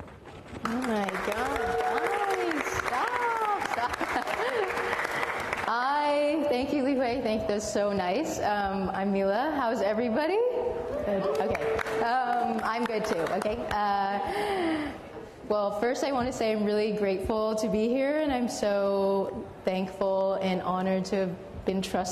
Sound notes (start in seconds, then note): 3.8 applause; 10.9 cheering